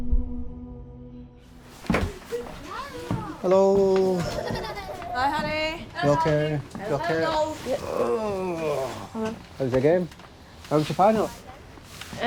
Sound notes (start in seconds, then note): 4.2 child giggling; 7.2 groaning